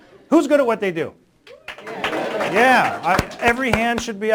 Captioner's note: applause